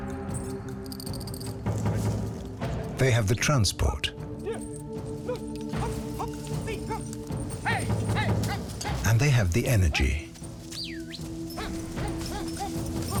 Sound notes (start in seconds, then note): 5.1 lumberman yells; 10.7 whistles